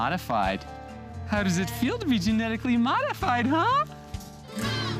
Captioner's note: in high voice